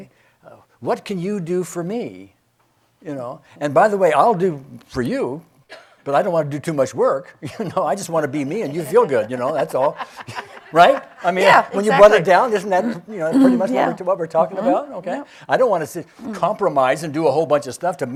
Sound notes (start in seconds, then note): 8.2 chuckling; 8.4 loudly laughing